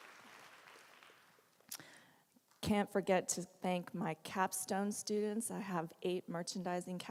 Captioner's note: applause